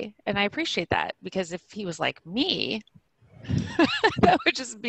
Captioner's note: laughing